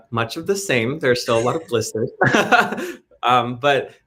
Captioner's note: laughs